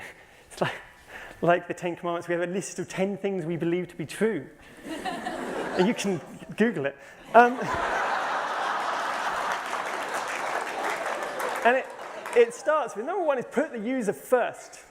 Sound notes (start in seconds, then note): 7.3 laughter and applause